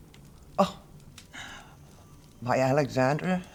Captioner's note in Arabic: يسخر